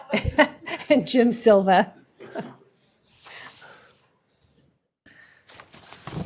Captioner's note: laughter